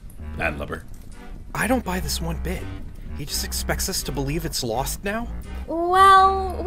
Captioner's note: whispering